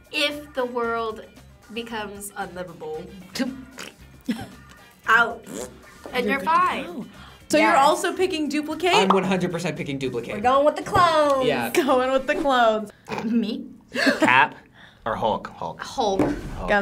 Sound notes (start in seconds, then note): 3.7 laughs; 13.9 laughs; 14.6 gasps